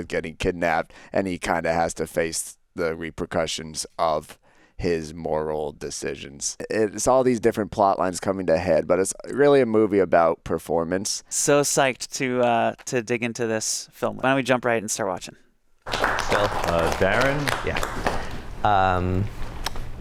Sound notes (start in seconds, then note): 15.8 crowd applauding